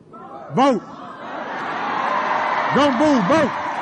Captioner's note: applause